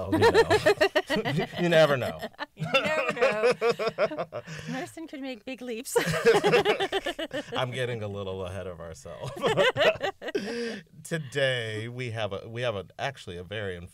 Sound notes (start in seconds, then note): 2.5 laughter; 5.9 laughter; 9.2 laughter